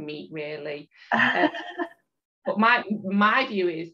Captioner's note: chuckles